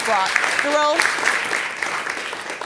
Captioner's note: audience clapping